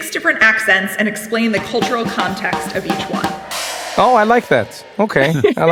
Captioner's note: laugh